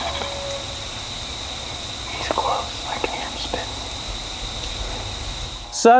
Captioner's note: whispering